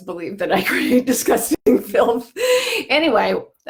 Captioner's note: laughing